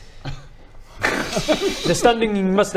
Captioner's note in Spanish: risas